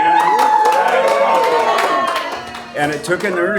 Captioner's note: applause and Cheering